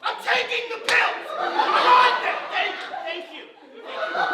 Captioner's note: screams